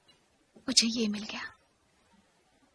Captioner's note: whispering